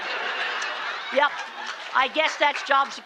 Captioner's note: laughter